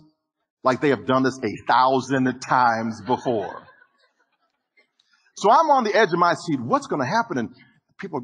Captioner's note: audience Laughing